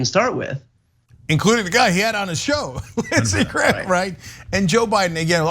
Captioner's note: laugh